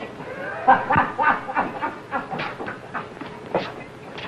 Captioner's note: happy laughing